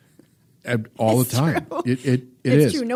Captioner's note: laughs